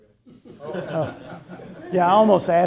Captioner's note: people laughing